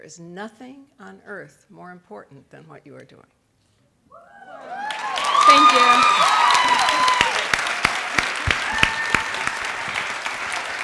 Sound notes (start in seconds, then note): 4.4 audience cheering; 9.6 clapping